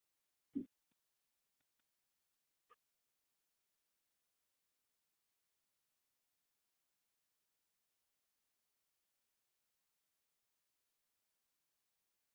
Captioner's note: silence